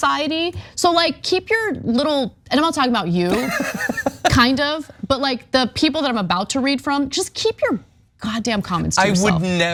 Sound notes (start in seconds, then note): 3.3 laugh